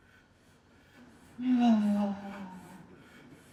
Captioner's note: moaning